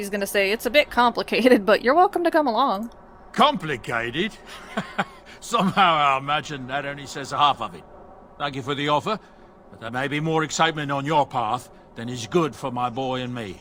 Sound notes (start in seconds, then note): 3.4 laughs